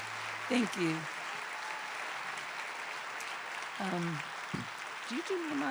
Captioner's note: cheers and applause; cheers continue